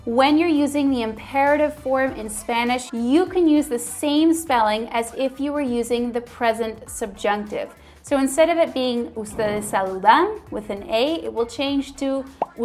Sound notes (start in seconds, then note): 9.2 speaking in foreign language